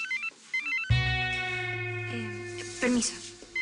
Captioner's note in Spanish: Suena el celular